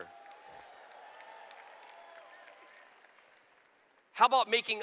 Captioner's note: cheers